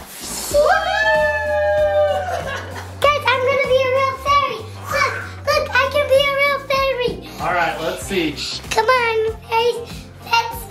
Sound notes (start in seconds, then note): 0.5 all cheering